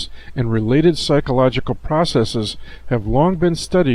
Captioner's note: none